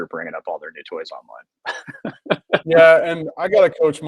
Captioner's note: laughs